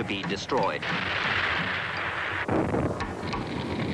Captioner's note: heavy artillery blasting; explosion blasts; fire crackling